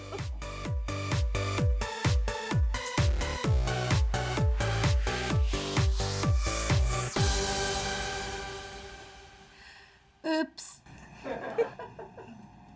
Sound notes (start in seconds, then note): 0.2 upbeat pop music; 11.2 people in background laughing